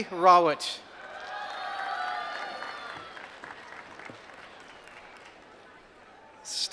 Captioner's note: applause